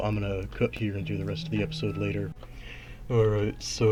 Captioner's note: alarm rings in background